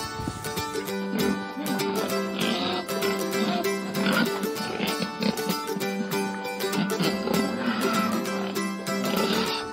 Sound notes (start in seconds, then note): 0.2 upbeat music; 4.7 pigs grunting